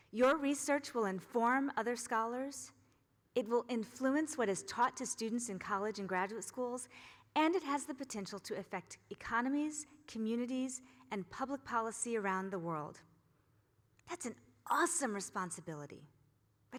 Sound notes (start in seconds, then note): none